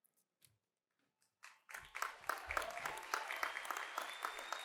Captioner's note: cheers and applause